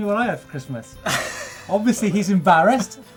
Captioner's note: laughs